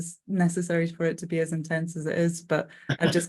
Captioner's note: laughing